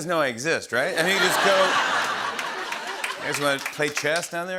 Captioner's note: laughter